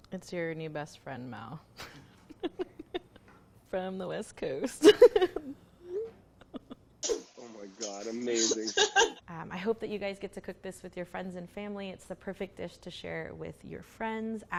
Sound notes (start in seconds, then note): 2.3 laughs; 5.9 notification hums; 6.4 laughs; 8.3 laughs